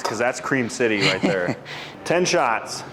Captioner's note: chuckling